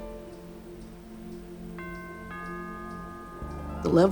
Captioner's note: doorbell rings